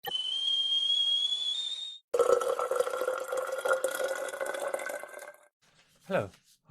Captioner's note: sound of kettle boiling and water pouring